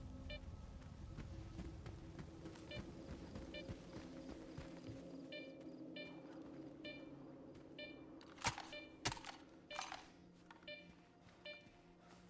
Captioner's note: gunfire